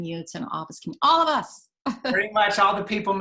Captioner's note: laughing